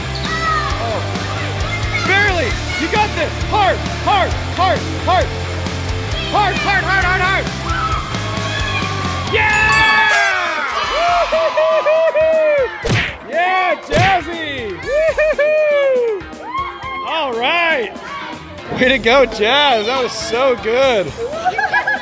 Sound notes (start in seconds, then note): 9.4 viewers cheering; 9.5 all cheering